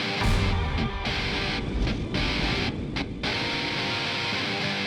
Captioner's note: smoke whooshing